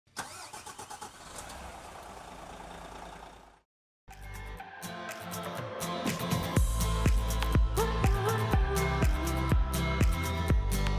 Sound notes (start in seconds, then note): 0.2 car engine revving; 4.1 upbeat music